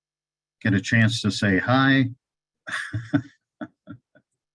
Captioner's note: laughs